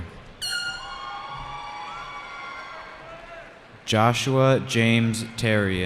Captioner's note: cheering